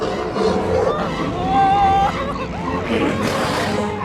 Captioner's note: growling